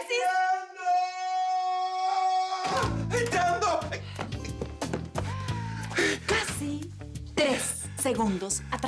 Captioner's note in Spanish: Sonido al abrir la puerta